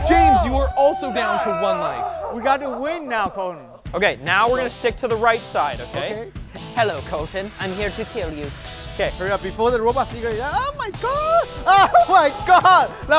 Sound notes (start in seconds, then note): 6.7 as Robot's Voice